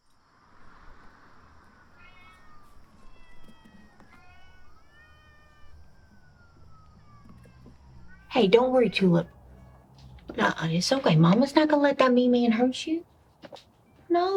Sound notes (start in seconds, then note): 2.6 cats meowing